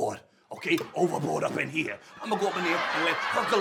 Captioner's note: audience laughs